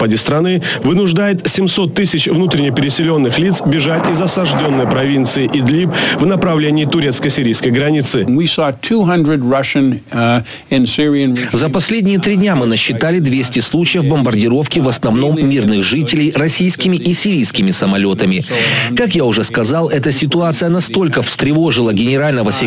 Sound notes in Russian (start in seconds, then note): 8.1 Английская речь